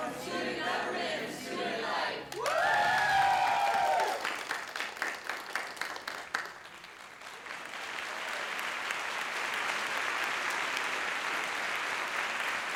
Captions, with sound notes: from student government and student life. (cheers and applause) (applause)